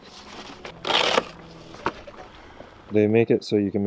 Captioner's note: box tears